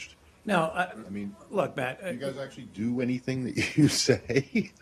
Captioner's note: laughter